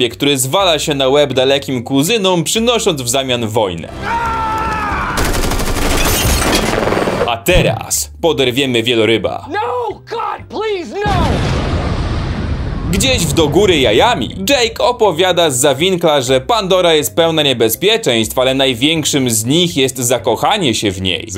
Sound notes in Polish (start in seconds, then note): 11.0 boom!